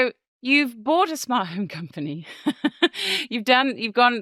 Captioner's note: chuckles